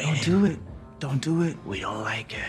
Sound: none

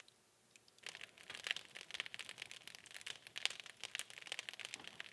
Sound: fire crackling

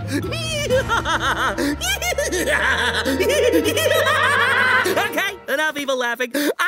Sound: evil laughter

